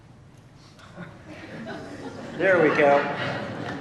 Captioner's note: laughter